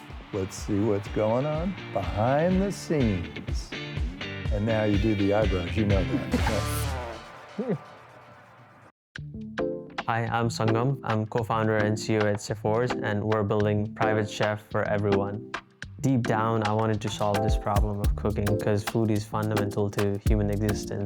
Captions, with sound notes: let's see what's going on. Behind the scenes. And now you do the eyebrows, you know that. (laughing) Hi, I'm Sangam. I'm co-founder and CEO at Cheforge and we're building private chef for everyone. Deep down I wanted to solve this problem of cooking because food is fundamental to human existence.